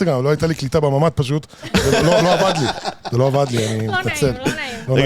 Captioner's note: laugh